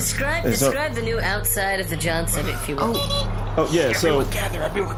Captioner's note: whispering